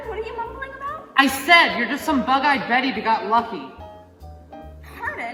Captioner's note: shouting